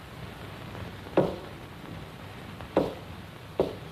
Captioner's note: knocking rhythm